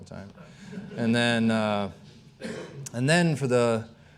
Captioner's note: audience laughing